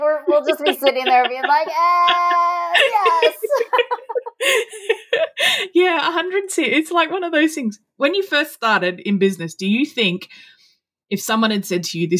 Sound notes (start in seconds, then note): 3.4 both laughing